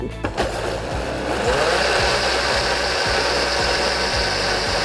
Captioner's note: blender whirring